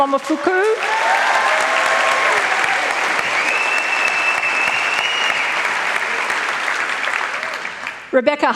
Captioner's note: applause